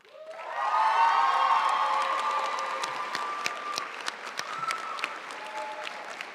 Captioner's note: audience cheering and applauding